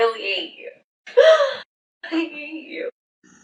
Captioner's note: giggle